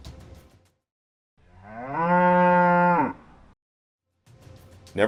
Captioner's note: cow Mooing